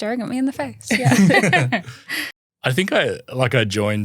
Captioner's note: laughing